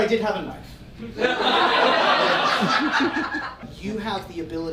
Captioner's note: audience laughing